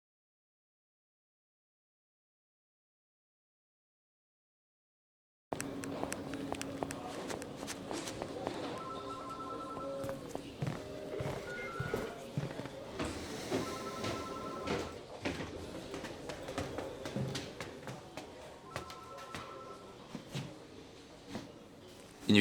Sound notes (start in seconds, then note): 5.5 police station sounds